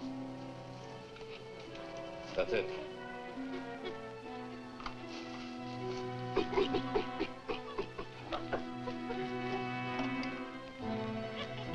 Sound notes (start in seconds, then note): 3.1 chimps chittering